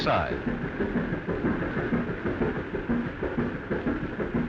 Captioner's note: steamboat chugging